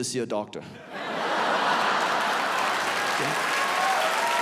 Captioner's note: audience laughs